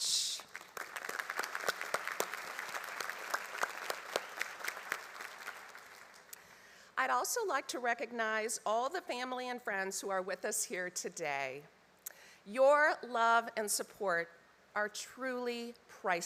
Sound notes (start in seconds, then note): 3.9 applause